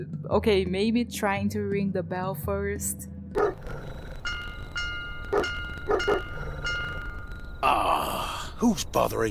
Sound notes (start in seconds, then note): 3.3 bark bark; 4.2 bell